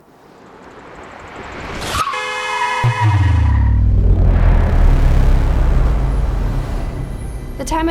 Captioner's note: escalating sounds of a car slamming on the breaks and hitting the car horn